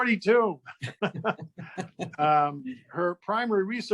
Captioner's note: both laughing